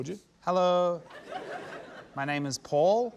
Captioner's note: laughter